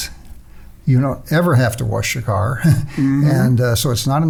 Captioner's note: chuckles